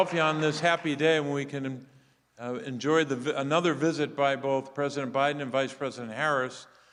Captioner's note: applause